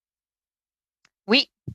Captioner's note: speaking French